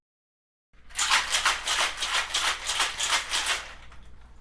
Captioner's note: cocktail shaking